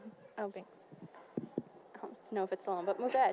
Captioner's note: taps microphone